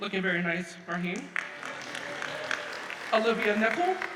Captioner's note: audience applauds